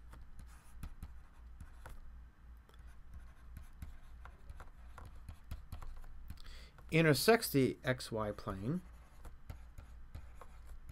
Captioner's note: writing on blackboard